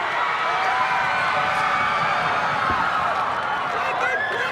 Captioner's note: crowd cheering